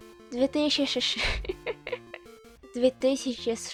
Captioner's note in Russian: хи-хи